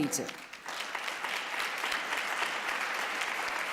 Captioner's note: applause